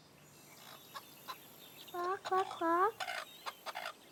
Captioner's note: clucking